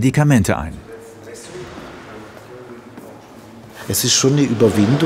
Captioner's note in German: Gespräch